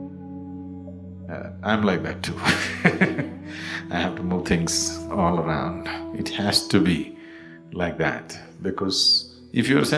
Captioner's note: laughs